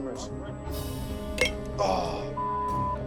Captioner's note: clank; groan